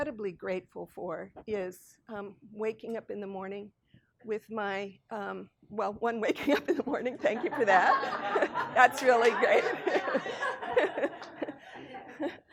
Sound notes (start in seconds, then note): 8.4 people laughing